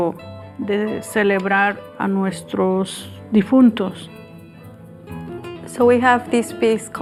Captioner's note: speaks spanish; speaking spanish